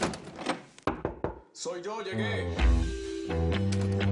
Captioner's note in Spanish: Ruido al tratar de abrir; Toques en la puerta